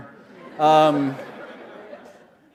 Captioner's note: laughter